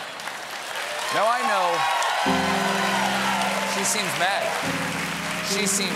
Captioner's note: cheers and applause; piano riff